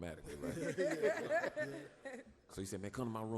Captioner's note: laughs